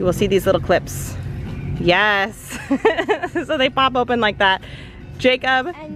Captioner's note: laughs